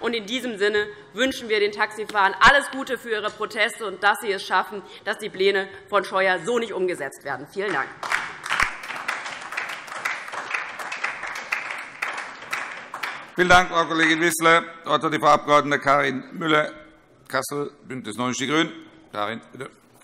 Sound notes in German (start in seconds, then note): 7.9 Beifall